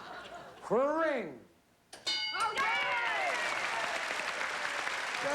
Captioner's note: cheering